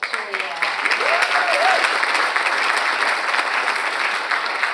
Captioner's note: audience applauds